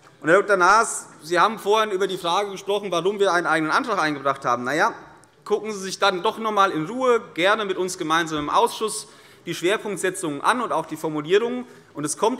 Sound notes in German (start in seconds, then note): none